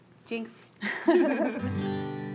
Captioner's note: laughing